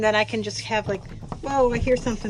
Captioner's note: tapping noises